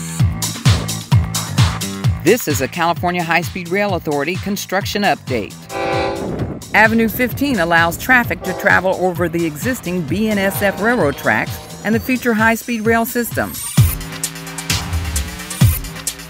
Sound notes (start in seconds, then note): 0.2 upbeat music; 5.6 train horn; 13.7 upbeat music